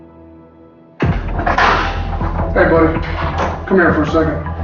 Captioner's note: door opens